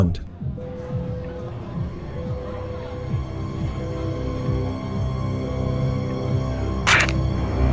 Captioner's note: beeping; crunch